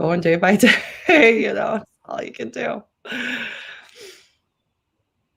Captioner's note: laughter